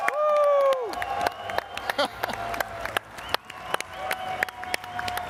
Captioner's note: all clapping and cheering